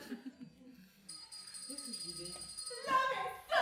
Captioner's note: the doorbell rings